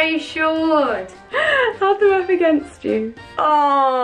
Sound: laughs

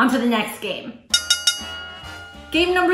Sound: bell dinging

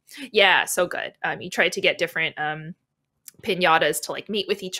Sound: none

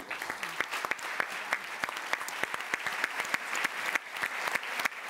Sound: applause

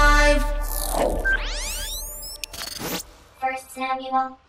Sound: screen whirs

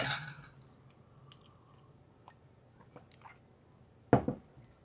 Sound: drinking; cup put down

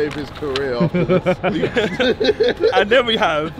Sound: all laugh

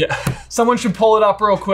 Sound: laughs

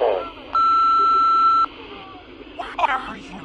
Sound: beeping

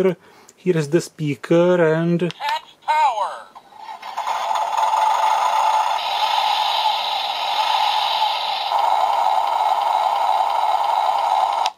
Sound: sounds coming from the toy

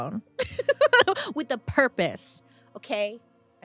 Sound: chuckles

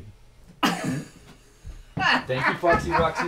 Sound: chuckling

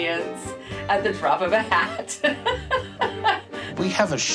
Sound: laughs

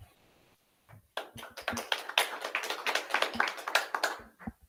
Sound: audience clapping

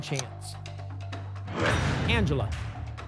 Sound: lock sound

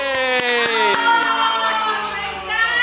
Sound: clapping

